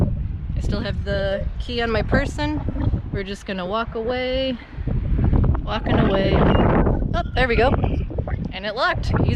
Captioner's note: beep